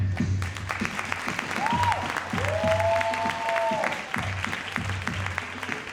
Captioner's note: crowd cheering and applauding